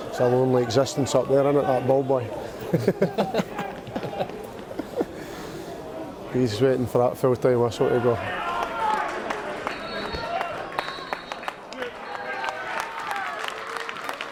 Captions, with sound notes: It's a lonely existence up there, that ball boy. (chuckles) He's waiting for that full-time whistle to go. (crowd clapping and cheering)